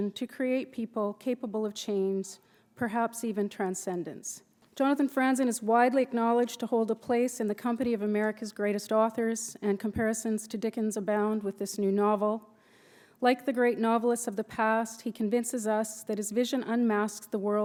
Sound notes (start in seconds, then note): none